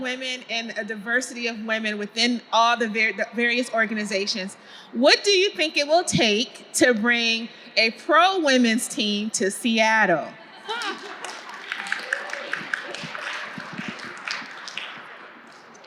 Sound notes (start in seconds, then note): 10.5 audience laughing; 12.3 audience clapping hands